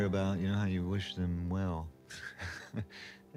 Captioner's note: laughs